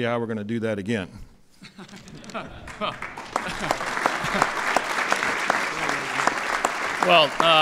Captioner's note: laughter and applause